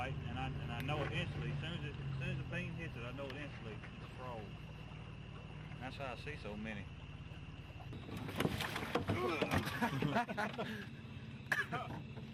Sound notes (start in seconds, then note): 7.7 splashing; 9.1 laughing